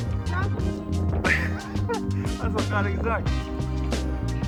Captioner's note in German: lacht